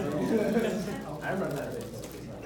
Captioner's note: laughs